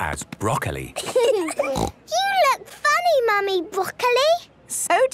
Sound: laughing, snort

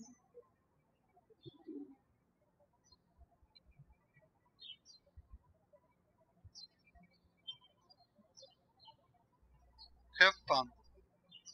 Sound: birds chirping

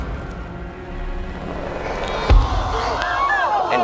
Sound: crowd groans

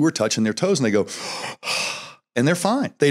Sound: deep breath

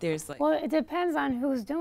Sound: voiceover

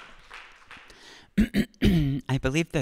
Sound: clears throat

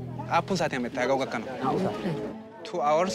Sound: speaking foreign language

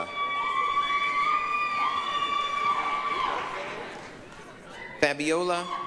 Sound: applause, cheering

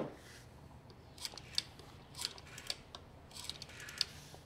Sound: rotary phone dialing

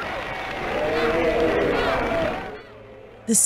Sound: protesters chanting

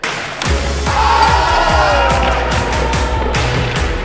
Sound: cheering

